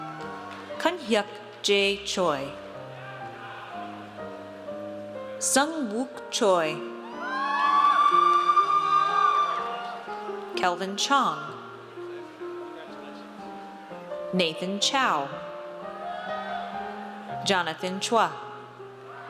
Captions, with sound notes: Kun-Huck J. Choi. Seong Wook Choi. (audience cheers) Kelvin Chong. Nathan Chow. Jonathan Chua.